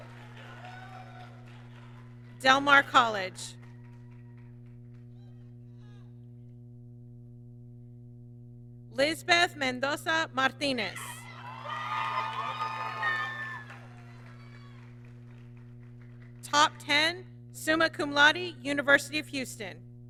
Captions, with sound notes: Del Mar College. Lizbeth Mendoza Martinez, (applause) top 10, Summa Cum Laude, University of Houston.